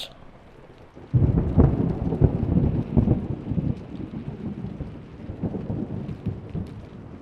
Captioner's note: thunder and raining sound